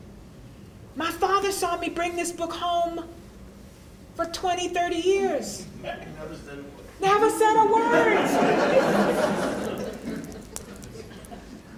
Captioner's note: laughter